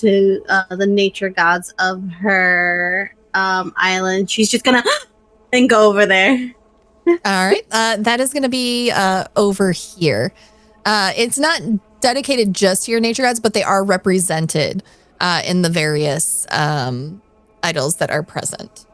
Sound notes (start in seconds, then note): 4.8 gasps